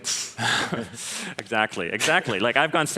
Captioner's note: laughter